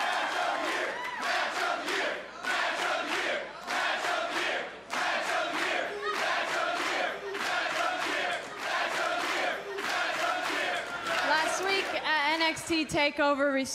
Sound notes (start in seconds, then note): 0.0 cheers & applause; 1.2 fans chanting